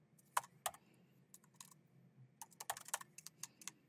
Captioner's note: keyboard clacking